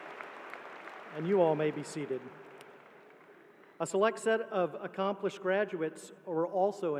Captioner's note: applause